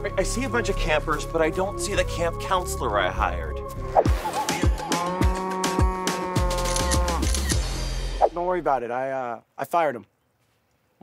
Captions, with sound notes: - I see a bunch of campers, but I don't see the camp counselor I hired. (cow mooing) (camera clicking) - Don't worry about it, I uh, I fired him.